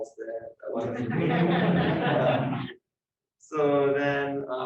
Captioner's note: laughter